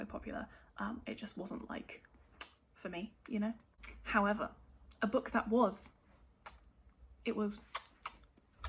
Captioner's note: many chef's kisses